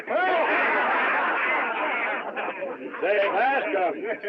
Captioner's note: all Laughing